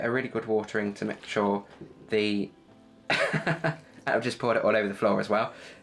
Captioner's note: laugh